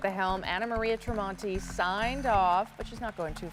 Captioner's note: applause